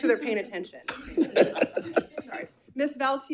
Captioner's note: attendees laughing